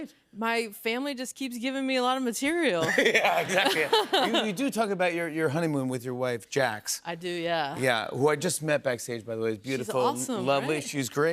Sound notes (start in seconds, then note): 2.8 laughter